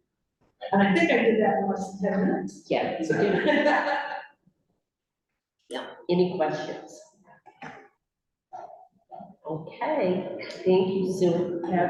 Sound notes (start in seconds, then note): 3.0 laughs